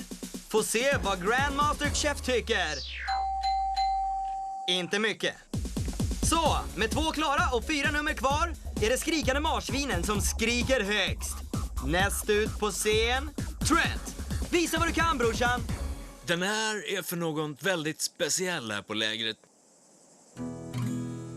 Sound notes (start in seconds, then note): 3.1 dinging